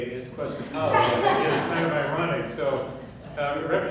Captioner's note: laughing